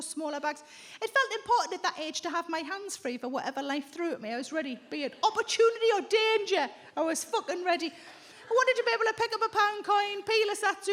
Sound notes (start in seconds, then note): none